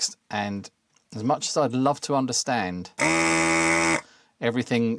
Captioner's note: buzzer